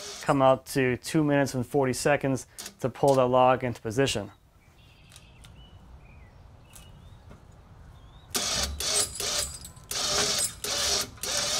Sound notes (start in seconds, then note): 5.6 birds chirping; 8.3 engine whirring